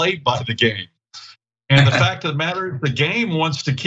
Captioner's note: laugh